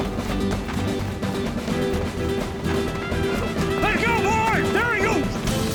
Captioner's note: running footsteps